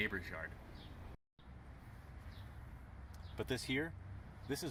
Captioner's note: birds chirping